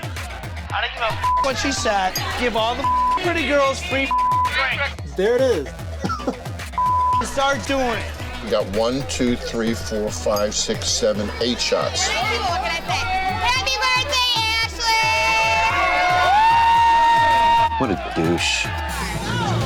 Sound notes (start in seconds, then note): 1.1 beep; 5.9 chuckles heartily; 6.8 beep; 12.3 group rowdily toasting; 15.5 bar patrons cheering